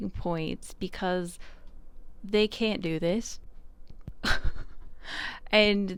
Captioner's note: laughs a little